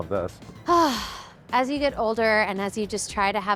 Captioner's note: sighs